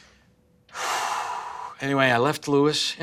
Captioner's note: stressed Dad deep breath